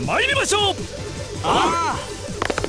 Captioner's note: affirmative grunts